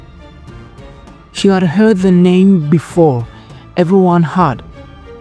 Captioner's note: narrator – Dramatic, Raising Questions